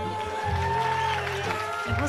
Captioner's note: audience cheering